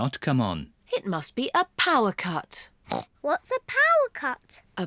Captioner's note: grunts